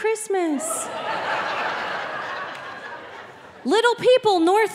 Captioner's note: audience laughing